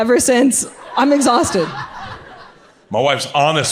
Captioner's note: audience laughs